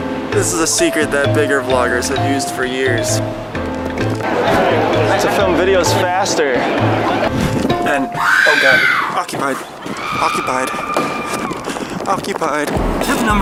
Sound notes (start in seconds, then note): 8.2 scream